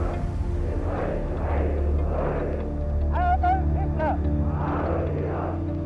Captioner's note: crowd chants in German